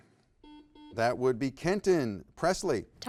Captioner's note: buzzer beeps